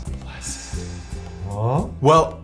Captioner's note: voiceover